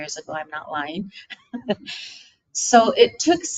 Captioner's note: chuckling